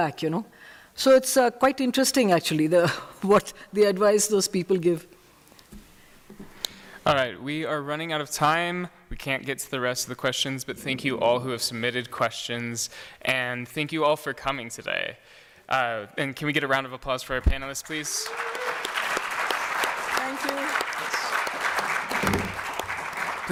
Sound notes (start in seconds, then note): 17.8 cheers and applause; 21.9 applause